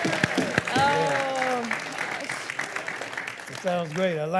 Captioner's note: crowd cheering